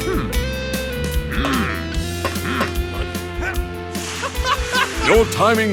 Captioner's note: players grunting; giggling